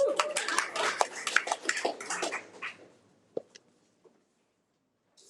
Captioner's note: attendees applaud